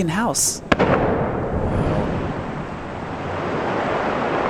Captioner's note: water splashes